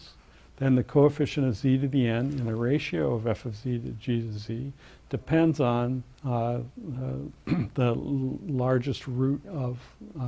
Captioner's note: cough